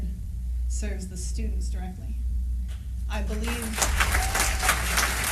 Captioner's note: applause